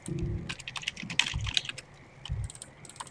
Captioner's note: typing sounds